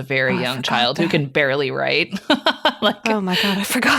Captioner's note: chuckling; laughing